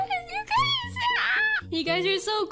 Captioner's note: happy screech